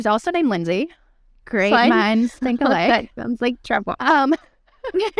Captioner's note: laughter